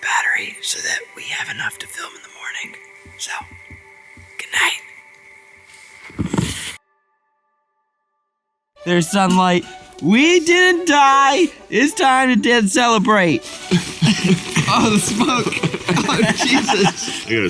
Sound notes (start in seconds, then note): 9.3 triumphant orchestral music; 13.6 coughs; 16.4 Ryan laughing